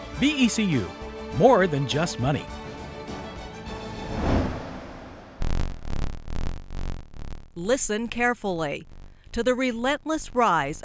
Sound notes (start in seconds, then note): 5.3 buzzing